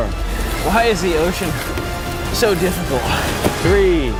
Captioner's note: panting